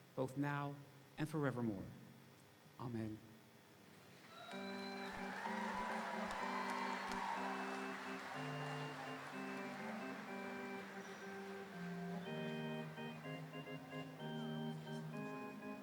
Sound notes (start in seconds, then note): 4.6 audience applauding; 4.6 audience cheering; 5.9 quiet music